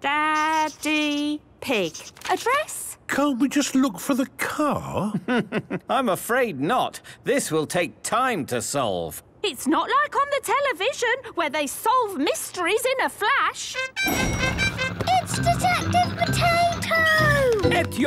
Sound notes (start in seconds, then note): 5.1 chuckling; 14.0 heroic music